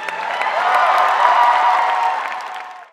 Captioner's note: cheers